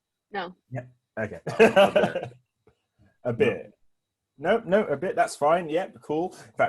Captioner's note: laughs